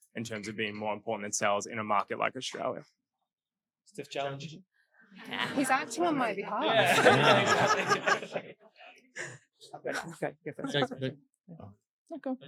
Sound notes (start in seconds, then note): 8.0 all laughing